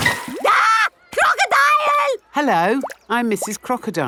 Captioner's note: screams